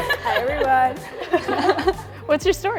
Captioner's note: women laugh